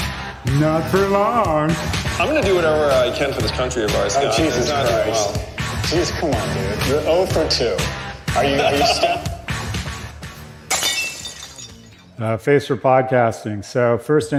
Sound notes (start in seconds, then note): 6.8 صدای خنده